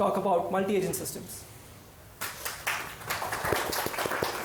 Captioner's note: applause